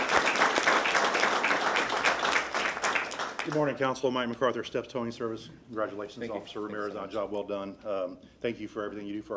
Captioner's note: applause